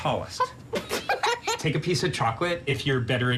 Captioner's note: laugh